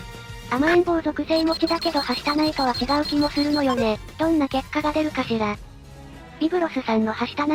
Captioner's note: beep beep beep